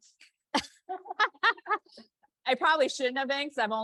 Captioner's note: both laugh